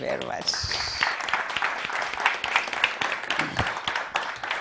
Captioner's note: audience applauding